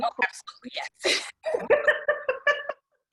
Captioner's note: laughter